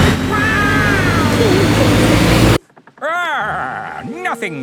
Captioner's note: laughing